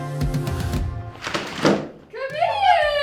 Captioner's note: inspiring music; door clacking